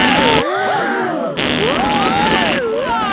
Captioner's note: both screaming; crowd gasps; screaming